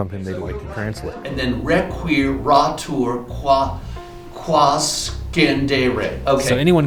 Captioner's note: speaking latin